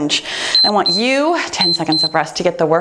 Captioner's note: timer beeps